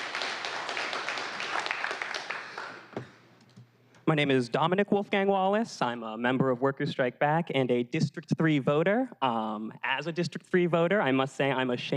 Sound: applause

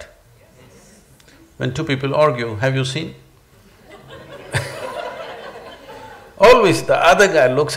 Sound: laughter

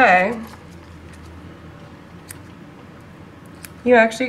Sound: scissors-clipping sounds

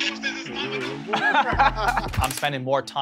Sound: Vinny laughs

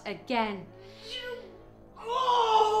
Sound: moaning

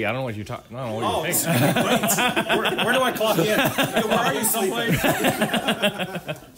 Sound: laughter; laughter

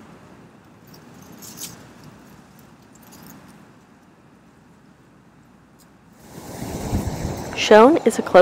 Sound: wind rustling through trees and prairie grasses

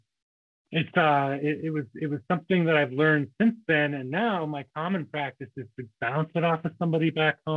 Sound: laughs

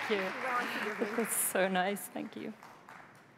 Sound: applause

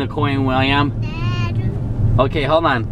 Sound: babbling

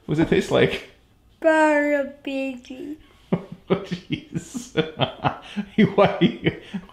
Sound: laughter

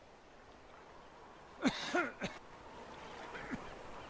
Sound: coughing

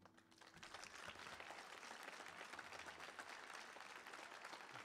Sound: applause

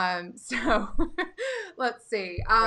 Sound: laughing

